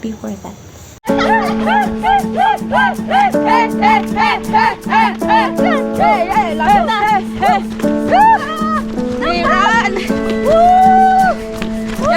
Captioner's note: uplifting music; everyone cheering